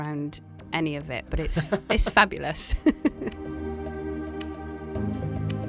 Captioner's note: voiceover